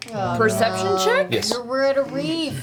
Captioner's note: all groan